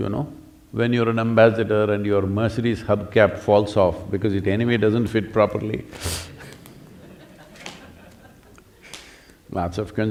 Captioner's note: laughter; laughs